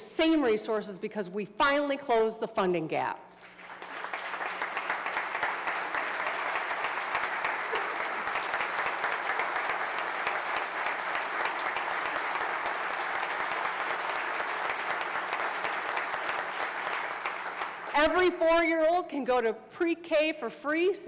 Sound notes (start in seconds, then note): 5.5 applause